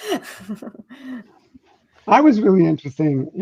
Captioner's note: chuckling